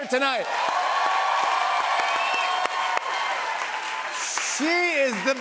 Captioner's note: cheers and applause